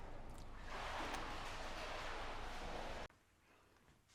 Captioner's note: water sloshing